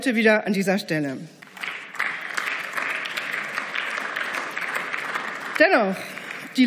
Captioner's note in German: Beifall